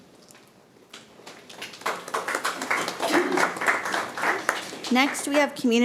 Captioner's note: audience applauding